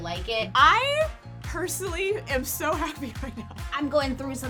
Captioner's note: laughs